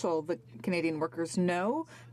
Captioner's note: speaking french